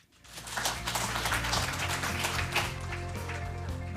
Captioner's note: applause